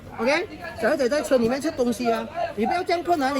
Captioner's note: kids eating in the car